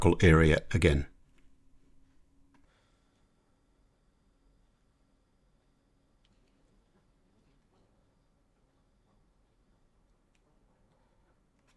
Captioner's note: silence